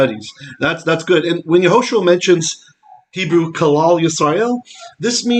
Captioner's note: Hebrew